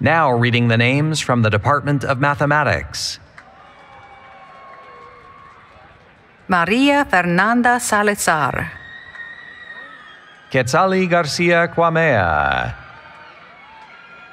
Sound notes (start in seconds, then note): 3.3 cheering